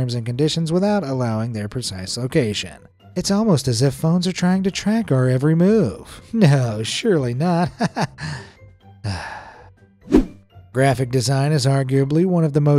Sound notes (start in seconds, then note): 7.6 chuckles; 9.0 sighs